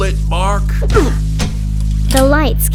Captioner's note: Mr. Bloomington grunting; lights turning on sound effect